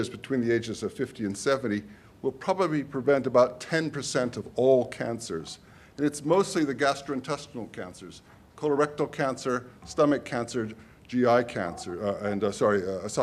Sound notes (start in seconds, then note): none